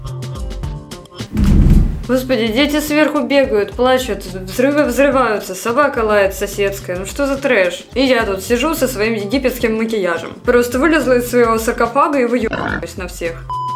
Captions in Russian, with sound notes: *Громкий грохот*. Господи, дети сверху бегают, плачут, взрывы взрываются, собака лает соседская, ну что за трэш. И я тут сижу со своим египетским макияжем. Просто вылезла из своего саркофага и выё*хрю*ваюсь на всех.